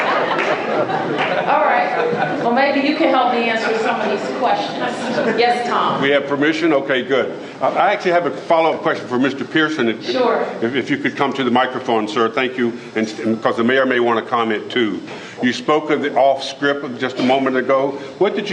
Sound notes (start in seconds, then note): 4.8 laughter